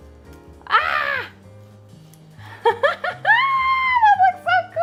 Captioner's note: squawks delightedly